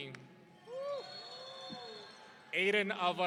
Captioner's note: audience cheering